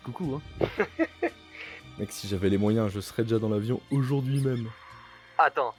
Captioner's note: laughs